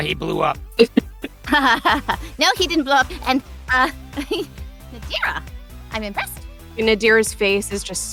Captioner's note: chuckles